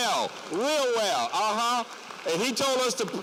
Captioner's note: applause